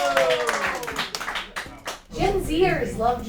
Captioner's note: audience cheering; audience applauding